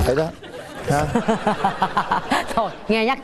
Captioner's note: laughing